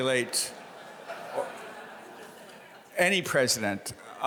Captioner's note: audience laughing